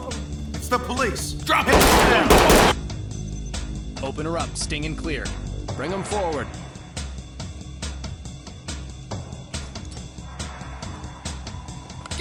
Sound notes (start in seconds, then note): 1.5 shots fired